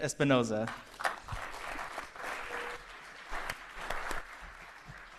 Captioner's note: applause